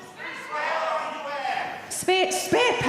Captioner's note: audiences shouting